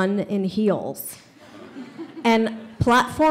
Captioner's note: audience laughs